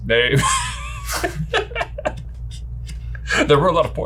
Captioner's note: laughs